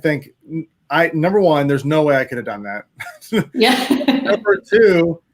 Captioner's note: laughs